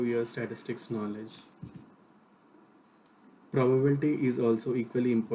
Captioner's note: click